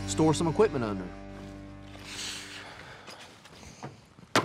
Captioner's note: footsteps; kicks barn